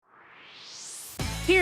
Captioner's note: swoosh